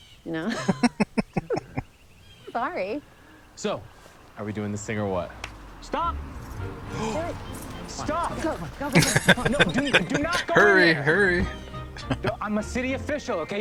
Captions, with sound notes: [Chuckling] [Laughing] Hurry! Hurry!